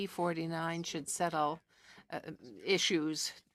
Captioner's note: speaking French